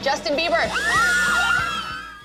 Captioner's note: girls screaming